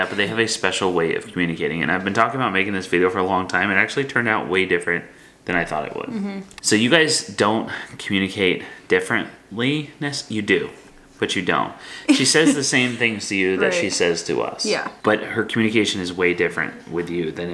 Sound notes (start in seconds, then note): 12.0 laughs